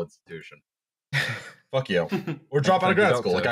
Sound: laughter

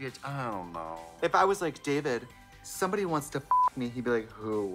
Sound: beep

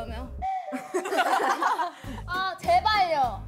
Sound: hahaha

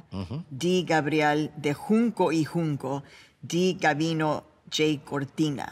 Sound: speaking in a foreign langauge

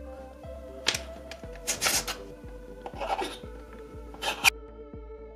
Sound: blades scraping

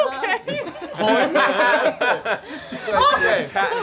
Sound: group laughing

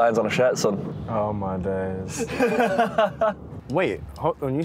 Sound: laughter

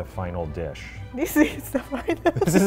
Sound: laughs

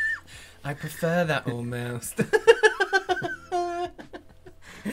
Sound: laughter

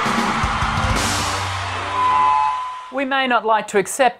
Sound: crowd cheering

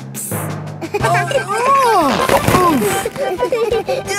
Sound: giggling; grunting; giggling

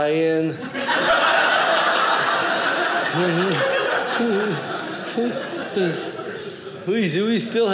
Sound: audience laughing

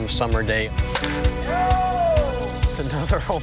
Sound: baseball hitting

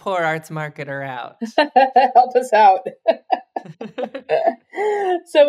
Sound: laughs

